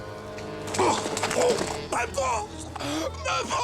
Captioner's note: exclaims